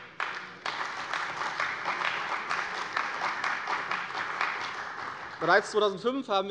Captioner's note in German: Beifall bei der CDU und dem BÜNDNIS 90/DIE GRÜNEN